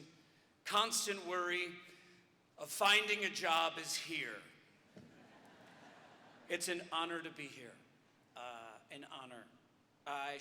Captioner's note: audience laughter